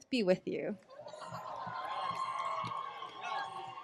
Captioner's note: laughter